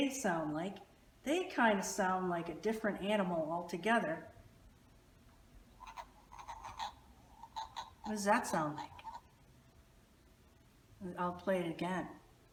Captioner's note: frog call